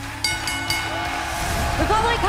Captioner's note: bell ringing